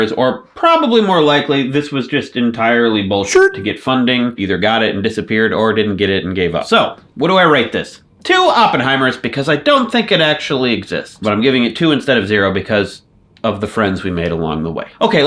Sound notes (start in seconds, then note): none